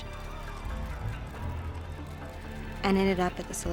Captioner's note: crowd yelling